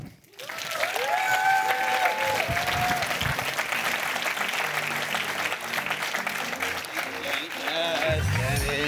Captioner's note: applause